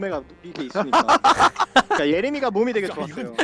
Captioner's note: laughing